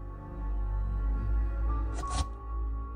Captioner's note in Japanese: シートのこすれる音：ガサ